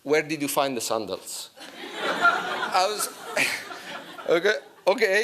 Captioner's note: laughter